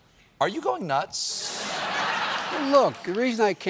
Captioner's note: laughter